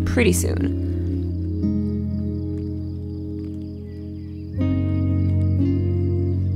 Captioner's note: crickets chirping; birds chirping